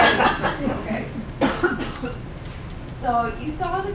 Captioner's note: laughing